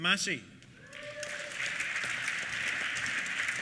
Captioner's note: applause; cheers